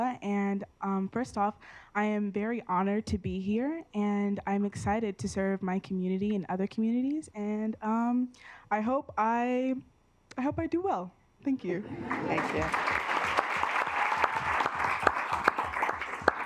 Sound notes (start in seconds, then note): 11.8 assembly chuckling; 12.2 assembly clapping